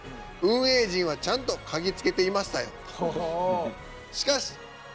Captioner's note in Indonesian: haha